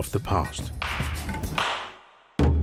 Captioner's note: worshiper clapping; drumbeat thumping